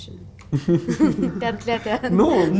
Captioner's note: giggles